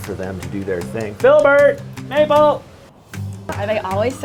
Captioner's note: shouts